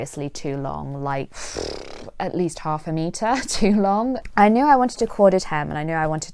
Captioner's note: blows raspberry